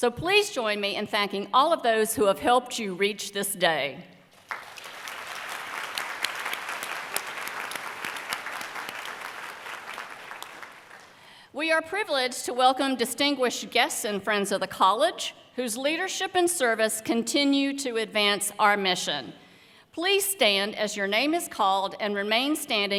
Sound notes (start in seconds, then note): 4.3 applause